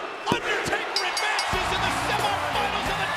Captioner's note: bell rings